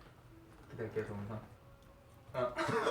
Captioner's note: whisper